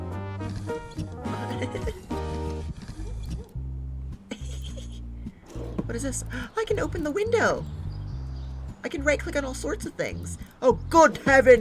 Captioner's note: giggles